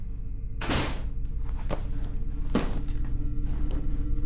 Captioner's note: door thuds